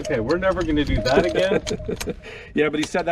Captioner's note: chuckling